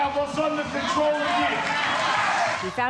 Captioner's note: cheers and applause